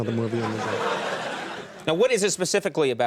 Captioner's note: audience laughing